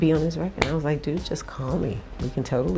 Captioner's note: hand slap